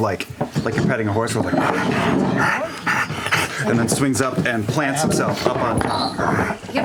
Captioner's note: pants